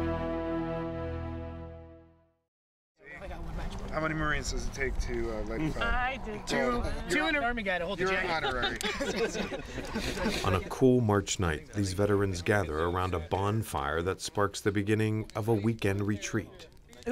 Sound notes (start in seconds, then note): 2.9 group chattering; 8.0 group members laughing